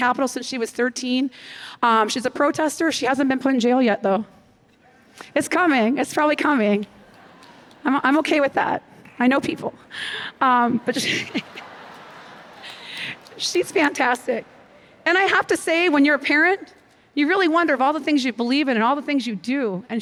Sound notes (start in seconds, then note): 10.6 laughter